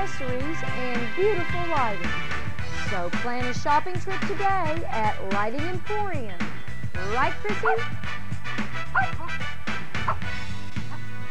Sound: barking

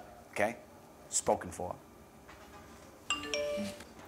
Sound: cellphone pings

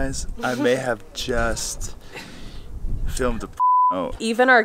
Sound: beep

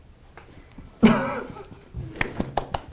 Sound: applauds; laughs

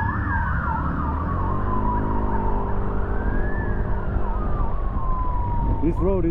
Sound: sirens

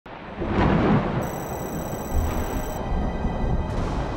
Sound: ominous thunder

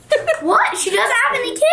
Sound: laughs

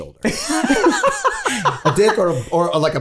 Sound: all laughing

